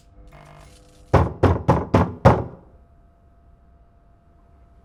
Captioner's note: knocking on door